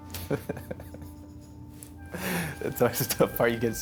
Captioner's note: laughs